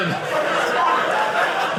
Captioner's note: audience laughing